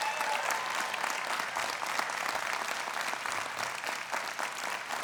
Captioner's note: audience applauding